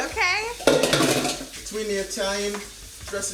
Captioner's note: pot thuds